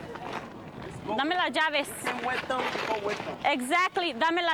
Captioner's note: speaking spanish